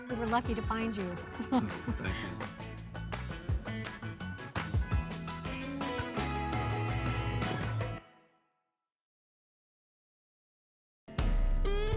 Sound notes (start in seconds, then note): 1.4 chuckles; 3.3 soft instrumental music